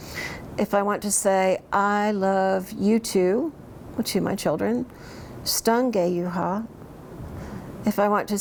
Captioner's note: speaks in Cherokee; speaks in Cherokee